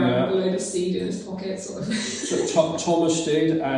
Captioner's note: laughs